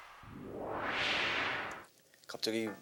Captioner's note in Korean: 슈욱